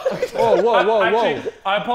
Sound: Sidemen laughing

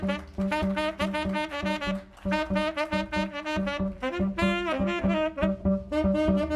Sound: applause

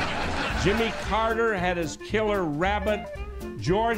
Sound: laughter

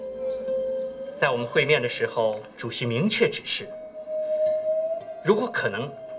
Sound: speaks in foreign language

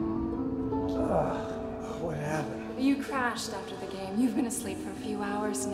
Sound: groans

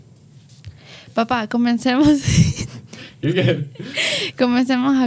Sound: speaks in Spanish

